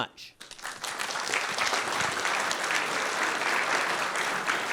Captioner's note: students clapping